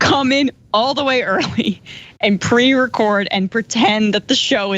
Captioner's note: laugh